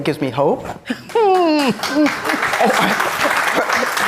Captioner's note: all applauding